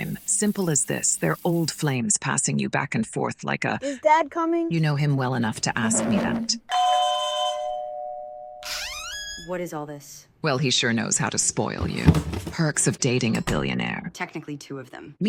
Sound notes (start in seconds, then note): 6.7 doorbell rings; 8.6 door creaks